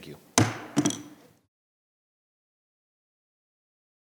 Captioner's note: gavel thudding